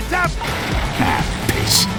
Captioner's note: sound of all those workers giving a heads up